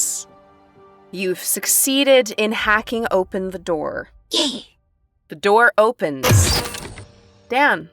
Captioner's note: door slides open